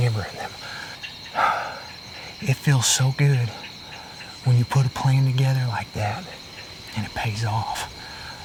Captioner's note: whispering